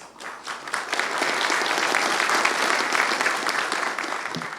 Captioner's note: applause